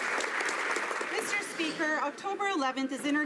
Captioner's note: applause